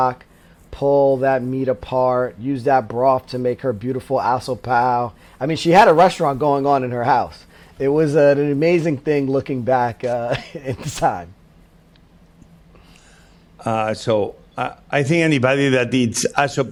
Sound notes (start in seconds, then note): 10.1 laughs